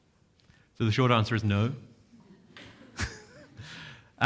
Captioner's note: chuckles